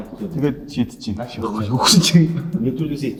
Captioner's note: laughs